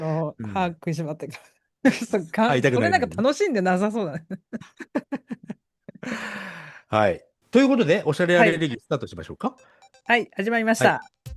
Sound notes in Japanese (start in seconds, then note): 4.5 笑い; 6.0 息をのむ音